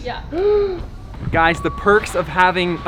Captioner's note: gasps